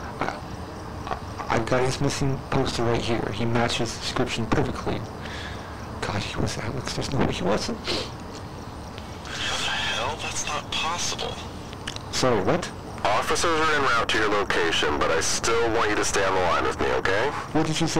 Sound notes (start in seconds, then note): 7.8 sniffle; 12.2 tongue click